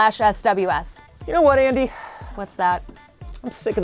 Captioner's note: sighs